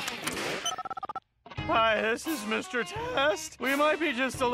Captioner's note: dialling beeps